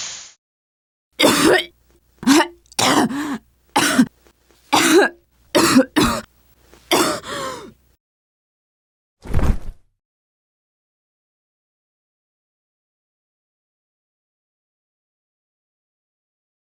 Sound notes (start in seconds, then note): 2.7 coughing in smoke